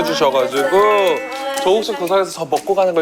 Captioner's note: A Round of Applause